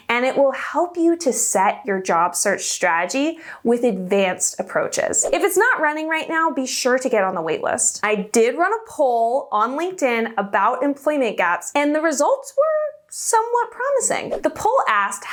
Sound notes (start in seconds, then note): 4.9 air whooshing; 14.2 air whooshing